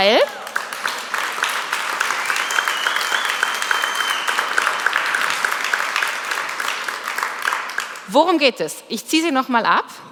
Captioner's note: Applaus